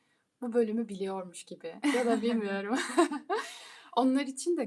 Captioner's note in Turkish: kahkaha